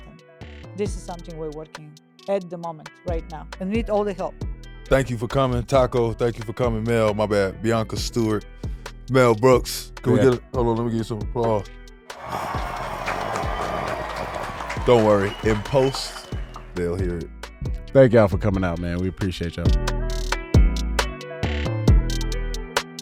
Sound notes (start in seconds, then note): 12.1 audience applauds; 20.3 soulful music